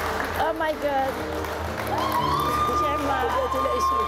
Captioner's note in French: applaudissements